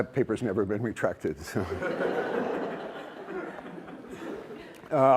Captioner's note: laughter